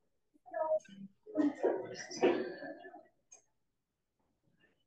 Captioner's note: audience chatters faintly